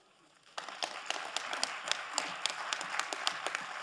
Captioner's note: crowd applauding